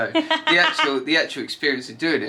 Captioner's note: laughs